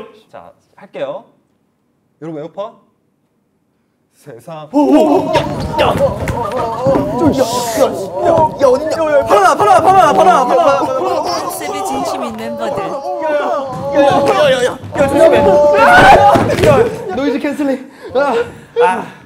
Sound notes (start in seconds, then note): 5.2 thud